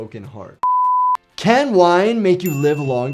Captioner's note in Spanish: suena un pitido